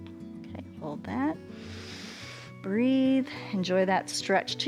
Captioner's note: inhales